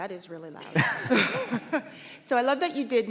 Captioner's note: laughing